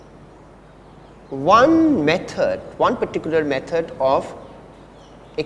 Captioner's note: distortion